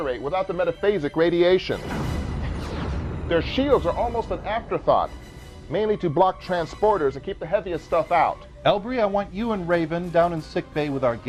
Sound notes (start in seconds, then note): 1.7 explosion